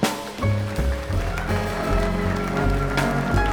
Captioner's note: applause